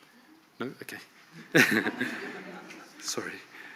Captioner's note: laughs